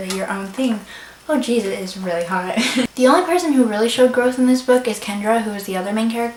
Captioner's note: laughs